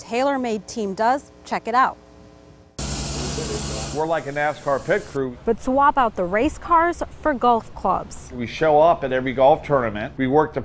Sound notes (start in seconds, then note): 2.8 nats spraying